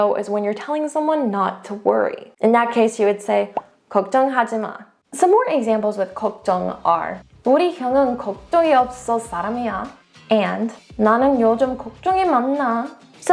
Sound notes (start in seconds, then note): 3.4 bubble popping; 3.4 speaking in Korean; 6.3 speaks in Korean; 7.3 speaking in foreign language; 10.9 speaks in Korean